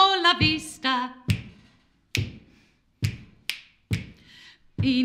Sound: finger click x4

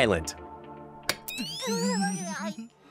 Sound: SpongeBob giggling

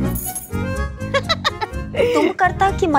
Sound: giggling

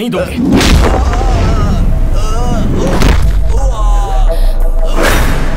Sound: thumping; groaning

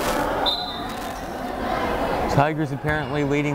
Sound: whistle blows

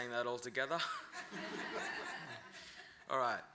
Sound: laughter

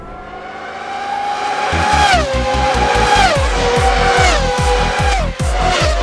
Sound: the sound of incoming V12 engines

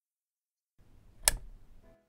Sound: click

